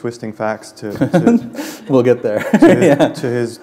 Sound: chuckle

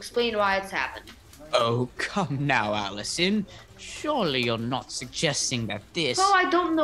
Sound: chuckles

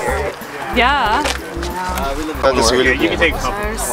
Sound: crowd chatters

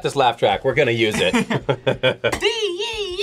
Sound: both laugh

